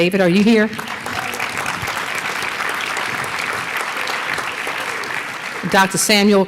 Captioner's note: applause